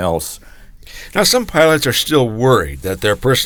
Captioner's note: voiceover